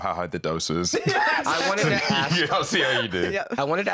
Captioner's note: laughing